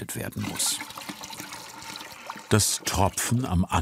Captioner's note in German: Plätschern